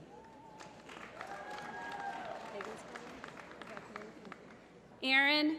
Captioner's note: applause